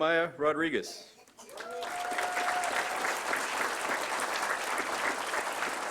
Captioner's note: applause